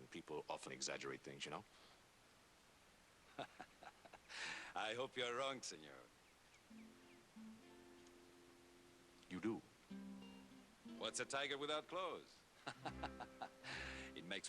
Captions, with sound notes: PEOPLE OFTEN EXAGGERATE THINGS, YOU KNOW. ( laughs ) I HOPE YOU'RE WRONG, SENOR. YOU DO? WHAT'S A TIGER WITHOUT CLAWS? ( laughs ) IT MAKES FOR MORE EXCITEMENT.